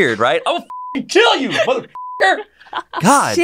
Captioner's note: beep